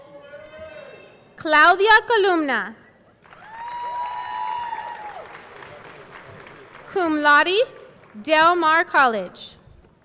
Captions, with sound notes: Claudia Columna. (audience cheering) (audience clapping) Cum laude, Del Mar College.